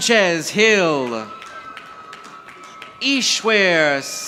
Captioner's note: audience applauding